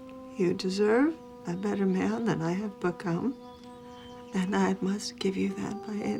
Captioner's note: voice breaking